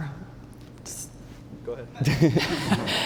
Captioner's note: laughter